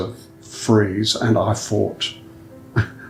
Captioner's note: laughs